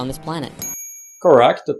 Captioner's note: ding!